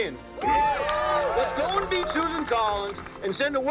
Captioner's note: cheering